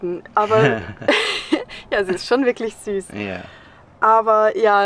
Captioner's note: laughs